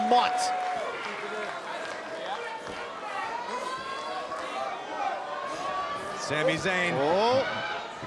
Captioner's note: crowd chatter